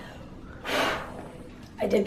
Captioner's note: sound of blowing out